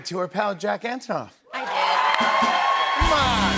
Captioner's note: cheers and applause